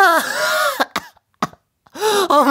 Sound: coughing

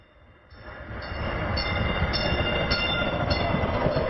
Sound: train roaring

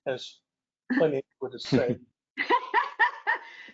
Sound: laughing

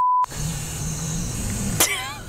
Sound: beep; tyre hissing; laughing

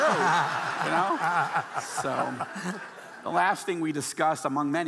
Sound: audience laughing

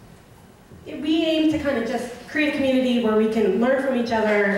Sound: voiceover

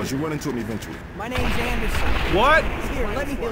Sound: explosion

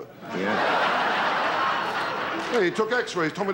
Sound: audience laughter

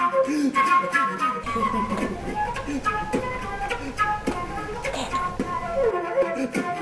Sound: seductive giggle

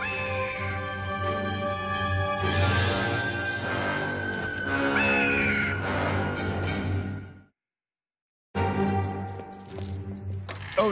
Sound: squawking

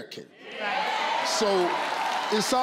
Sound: crowd

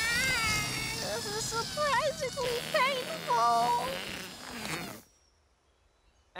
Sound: escaping air blows raspberry

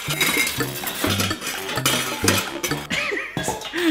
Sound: noisy clattering; playful music; laughing

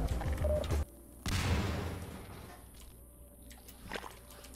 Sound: small explosion

